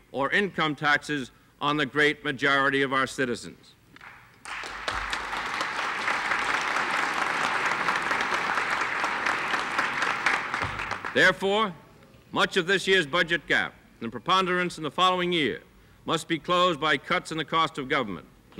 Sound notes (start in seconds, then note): 4.4 audience applauds